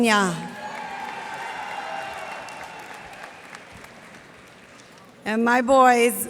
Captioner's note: cheers and applause